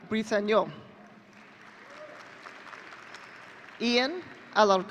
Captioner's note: audience cheering